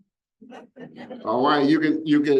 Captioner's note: audience laughs